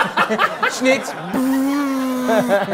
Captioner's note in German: Gelächter